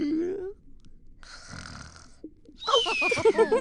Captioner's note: snoring